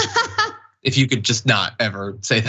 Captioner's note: laugh